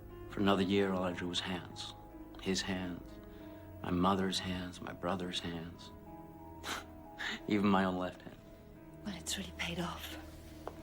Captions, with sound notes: For another year, all I drew was hands. His hands, my mother's hands, my brother's hands. (laughs) Even my own left hand. - Well, it's really paid off.